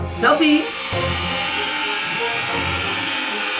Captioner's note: shrieking